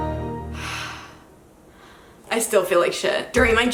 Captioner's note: sighs